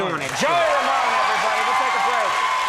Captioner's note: audience cheering